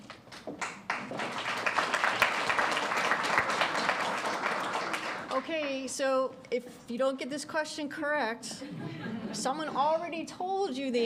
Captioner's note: applause